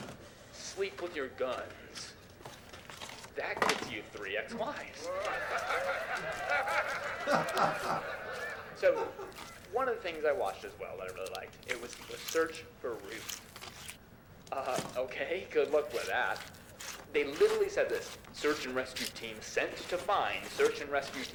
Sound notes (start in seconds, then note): 4.9 audience laughs; 7.1 dad laughs